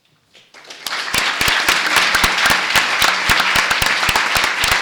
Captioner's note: applause